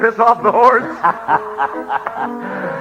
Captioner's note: laughs